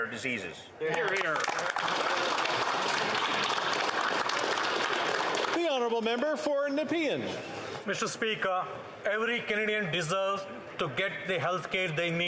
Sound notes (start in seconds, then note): 6.8 some Applause